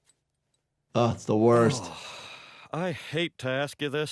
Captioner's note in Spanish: Hank suspira